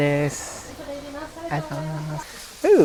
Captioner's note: lady responds in japanese